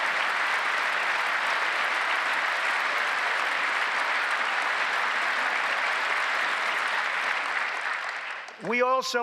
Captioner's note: applause